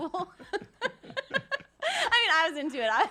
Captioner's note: laughing